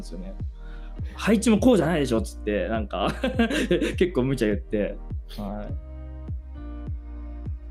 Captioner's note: laughs